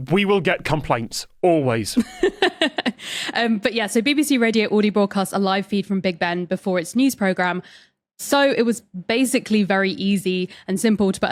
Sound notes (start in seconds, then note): 1.9 laughs